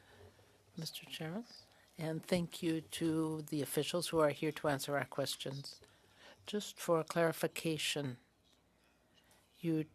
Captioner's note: speaking French